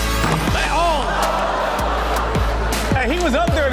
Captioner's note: audience claps and cheers; audience groans